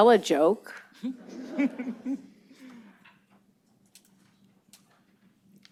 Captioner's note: laughter